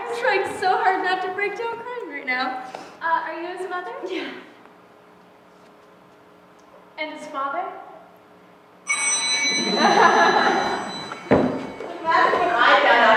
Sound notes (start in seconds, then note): 8.8 bell rings; 9.5 laughter